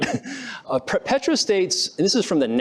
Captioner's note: laughs